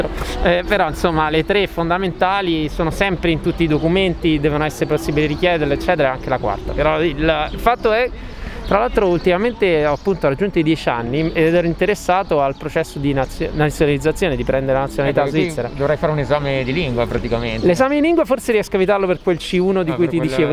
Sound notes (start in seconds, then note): 6.0 Romansh